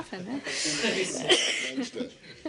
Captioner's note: laughter